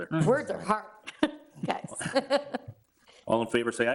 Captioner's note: laughs